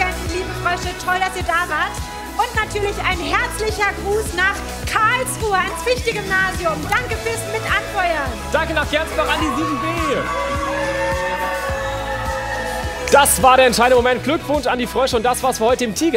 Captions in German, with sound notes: Liebe Tigerenten, liebe Frösche, toll, dass ihr da wart. Ein herzlicher Gruß nach Karlsruhe. Danke fürs Anfeuern. Danke auch an die 7b. (Jubel) Das war die Entscheidung, Glückwunsch an die Frösche,